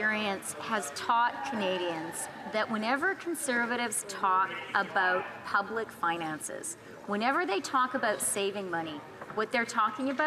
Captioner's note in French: voix de l'interprète